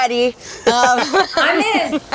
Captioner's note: laughs